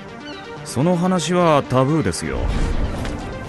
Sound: seagulls squawk

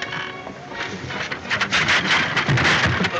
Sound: clattering

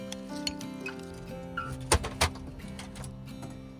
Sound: glass clinking

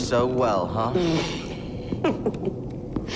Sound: laughs

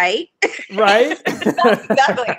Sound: laughing

